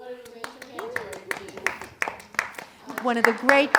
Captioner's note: audience applauding